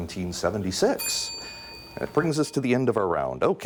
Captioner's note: bell dings